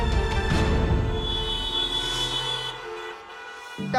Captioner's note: honking continues